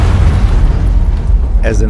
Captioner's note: explosion